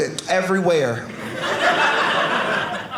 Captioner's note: audience laughing